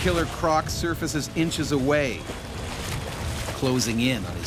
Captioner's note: voiceover